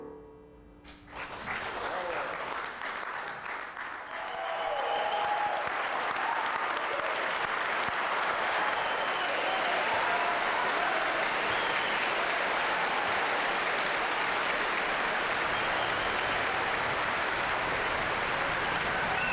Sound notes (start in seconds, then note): 1.1 audience cheers